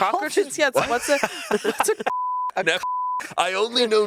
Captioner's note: beep